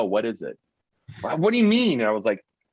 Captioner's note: chuckling